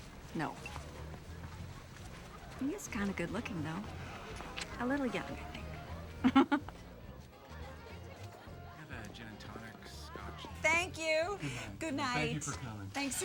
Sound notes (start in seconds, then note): 6.1 chuckles